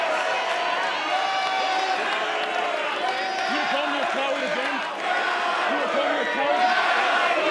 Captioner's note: cheers and applause